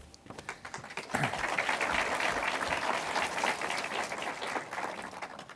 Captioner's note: audience applauds